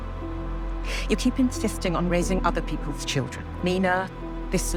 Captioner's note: voiceover